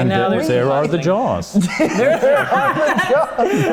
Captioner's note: laughter